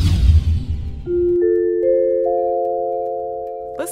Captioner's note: chime sound